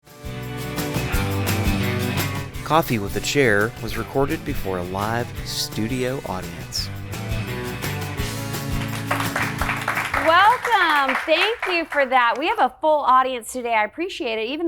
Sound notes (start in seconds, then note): 0.7 upbeat music; 7.2 upbeat music; 8.4 audience applauding